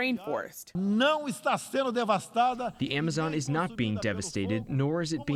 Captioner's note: through translator